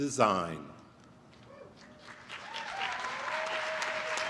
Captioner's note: applause